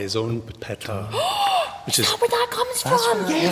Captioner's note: gasps